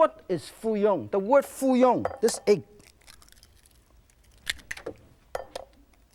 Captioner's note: egg cracks